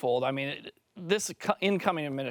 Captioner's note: French